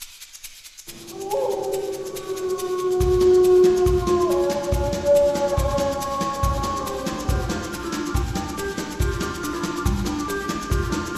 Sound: upbeat chase music; a howl

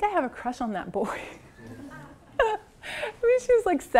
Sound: laugh

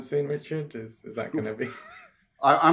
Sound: laughs

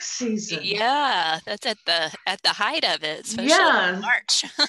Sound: laughs

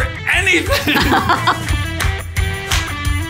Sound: laughing

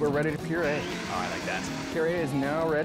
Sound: blender whirring

